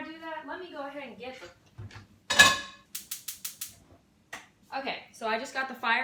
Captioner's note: starts stove